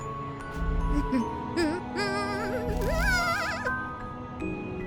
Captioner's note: humming